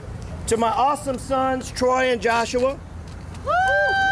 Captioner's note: applause